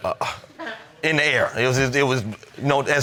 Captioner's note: stutters